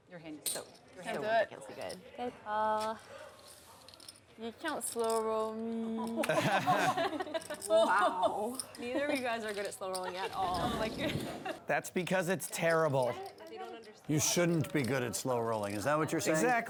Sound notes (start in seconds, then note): 6.2 laughs